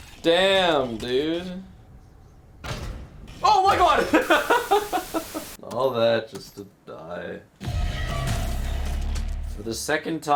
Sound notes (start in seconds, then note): 4.0 laughs